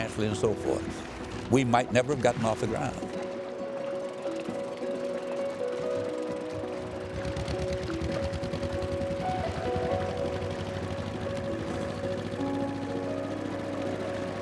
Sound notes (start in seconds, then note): 5.0 gentle orchestral music continues; 8.3 boat motor rumbling